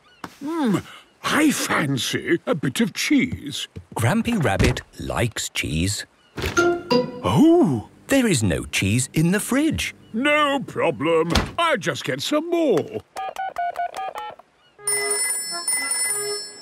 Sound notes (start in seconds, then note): 12.9 dial tone; 14.8 phone rings